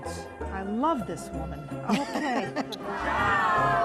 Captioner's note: laughter